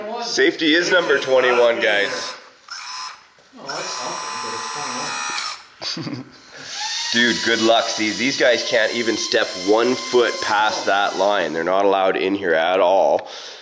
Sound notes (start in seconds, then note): 2.9 forklift loading; 5.8 laughs